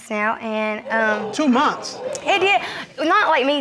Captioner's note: crowd gasping